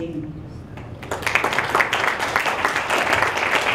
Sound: applause

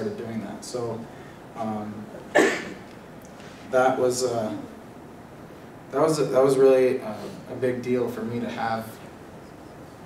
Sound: cough

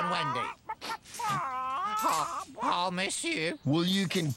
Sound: sniff!

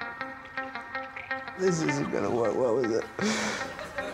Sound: squirting

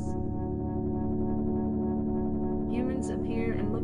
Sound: electronic humming

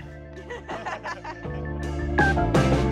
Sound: laughs

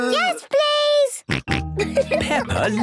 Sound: snorting and giggling

